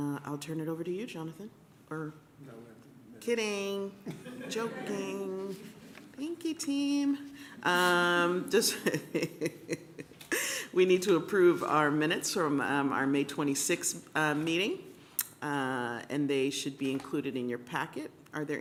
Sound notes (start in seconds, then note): 4.0 laughter; 8.5 laughs